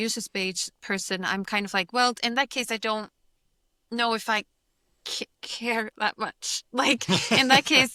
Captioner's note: laughs